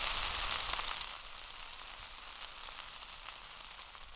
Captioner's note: meat sizzling